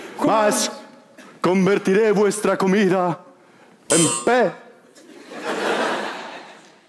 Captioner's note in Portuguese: campainha